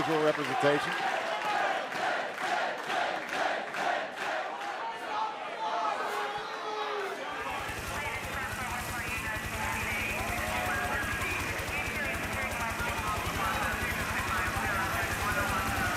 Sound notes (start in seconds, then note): 2.8 fans chanting